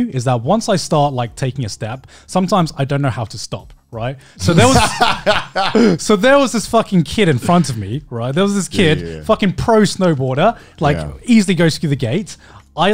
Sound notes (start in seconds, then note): 4.4 laughing